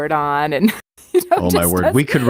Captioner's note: laughter